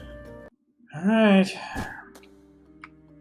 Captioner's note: sighs